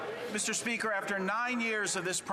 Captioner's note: some Applause